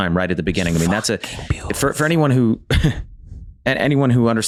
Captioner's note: whispers